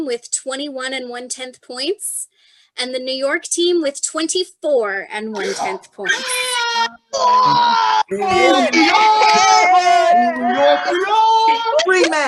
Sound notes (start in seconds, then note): 6.2 New york hooting and hollering